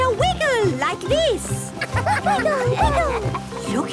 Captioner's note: laughter